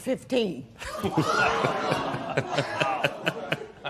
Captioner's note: laughter